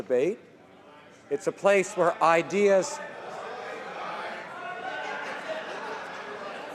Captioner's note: some Applause